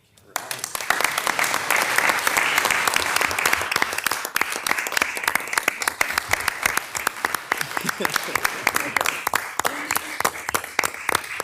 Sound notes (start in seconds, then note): 0.6 participants clapping; 7.1 participants laughing